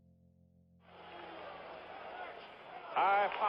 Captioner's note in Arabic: الناس يصرخون